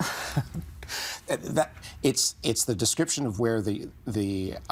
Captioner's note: chuckling; stammering